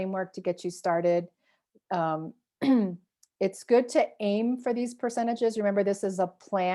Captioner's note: clears throat